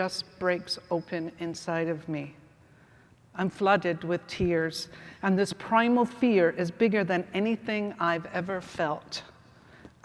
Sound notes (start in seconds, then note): none